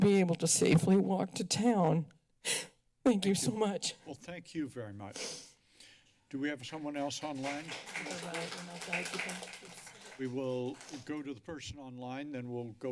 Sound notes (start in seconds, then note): 6.6 applause